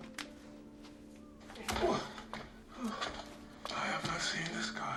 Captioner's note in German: Grunzen, Hosen